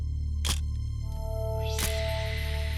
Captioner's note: camera shuttle click